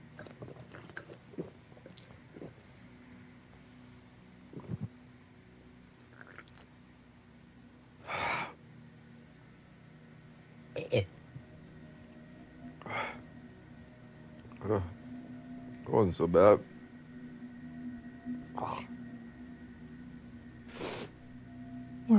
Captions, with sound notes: (Lance gulping) (Lance exhaling) (Lance retching) Eh. That wasn't so bad. (Lance retches and sniffs)